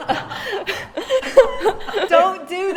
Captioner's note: all laughing